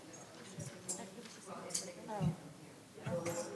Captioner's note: murmurs